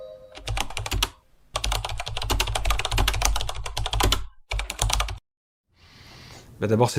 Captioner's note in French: bruit de clavier